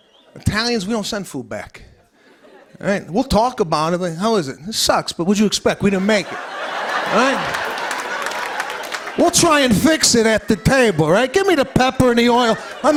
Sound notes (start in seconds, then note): 6.0 laughter and applause